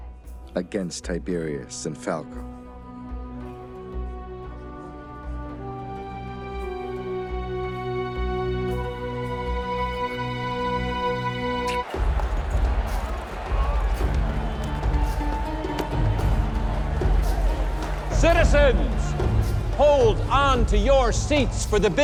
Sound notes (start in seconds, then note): 11.9 crowd cheering; 13.6 indistinct chatter